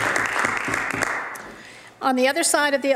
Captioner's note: applause